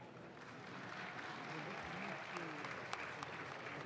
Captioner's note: audience claps